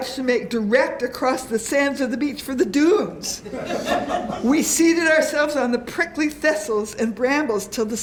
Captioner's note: laughter